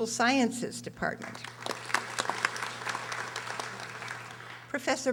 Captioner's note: audience applauding